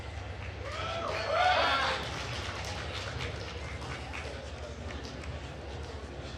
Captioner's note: attendees cheering and applauding